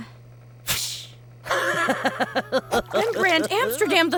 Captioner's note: laughs